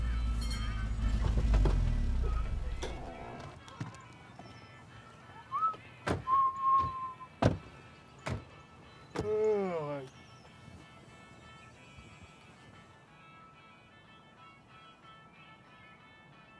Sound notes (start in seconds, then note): 0.3 bell dings; 6.0 Lance whistles; 9.4 Lance yawns loudly; 13.0 twangy bluegrass music